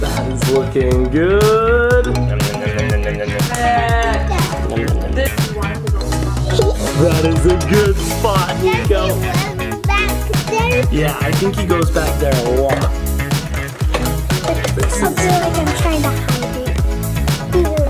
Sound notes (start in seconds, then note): 2.6 eating sound effects